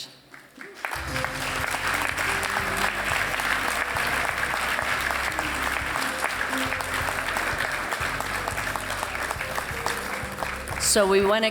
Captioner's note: applause